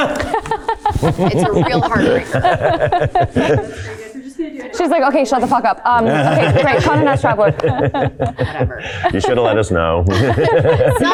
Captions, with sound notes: [group laughing] It's a real heartbreaker. [crew member speaking faintly] - She's like, "Okay, shut the fuck up," Have a nice travel. - Never. - You should have let us know.